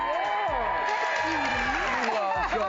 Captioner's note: cheers